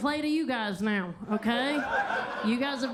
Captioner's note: attendees laughing